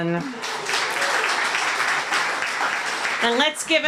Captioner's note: applause